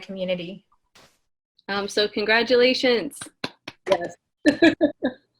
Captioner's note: clapping